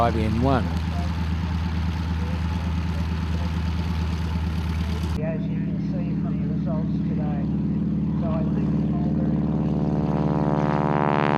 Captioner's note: aircraft sounds